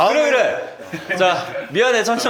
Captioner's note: chuckles